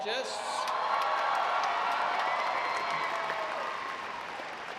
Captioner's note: audience applauding